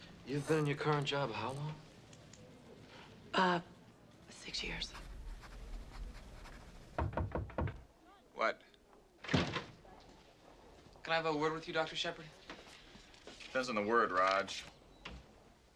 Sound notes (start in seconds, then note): 4.6 pen scratching; 6.5 knocking